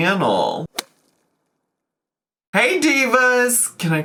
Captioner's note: logo thuds